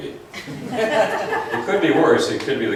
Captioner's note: laughs